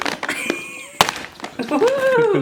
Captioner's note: laughs